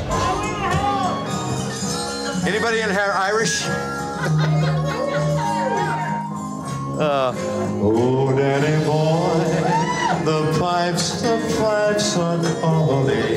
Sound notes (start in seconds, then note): 0.0 laughing; 0.2 irish music playing; 3.9 laughing